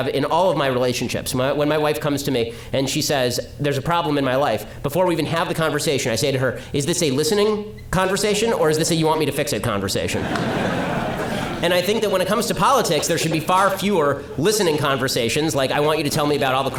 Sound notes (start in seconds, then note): 10.2 audience laughter